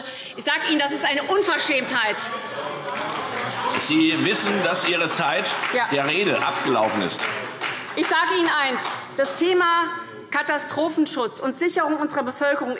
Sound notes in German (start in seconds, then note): 2.7 Beifall SPD - Widerspruch CDU